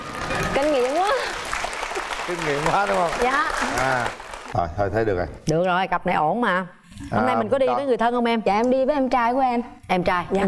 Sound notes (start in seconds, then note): 0.0 applause